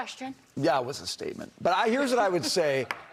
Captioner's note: laughter